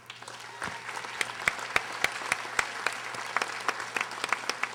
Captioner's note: audience applauding